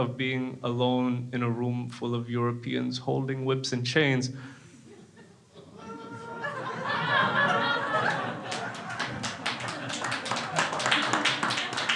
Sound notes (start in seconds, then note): 4.9 crowd laughs; 7.2 crowd applauding